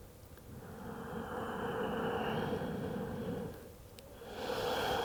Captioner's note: breathes deeply